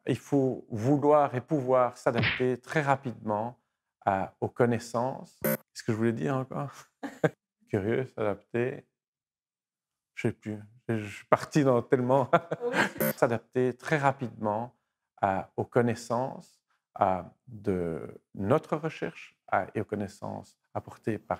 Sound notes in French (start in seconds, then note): 7.0 rires; 12.3 rire